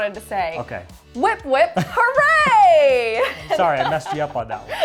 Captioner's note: chuckles